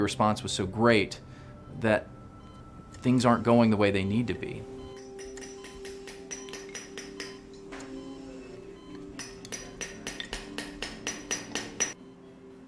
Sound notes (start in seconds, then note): 4.2 beeping; 4.9 hammering